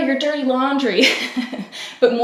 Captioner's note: laughs